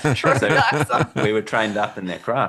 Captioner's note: laughing